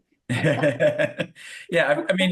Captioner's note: laughs